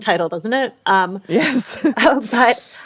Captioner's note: laughs